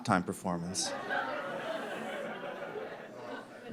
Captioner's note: laughter